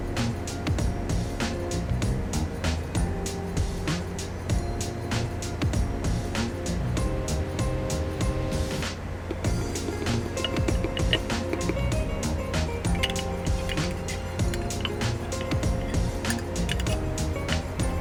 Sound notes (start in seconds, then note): 9.3 spoon tapping; 9.4 gentle upbeat music